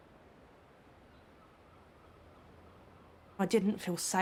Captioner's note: birds chirping; birds squawking